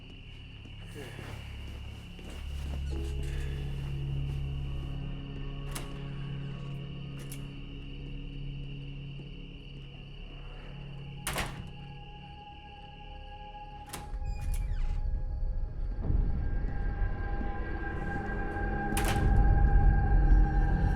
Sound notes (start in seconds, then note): 0.2 tense music; 13.7 door squeaking; 14.4 tense music builds